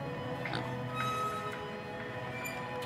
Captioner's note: pigs snorting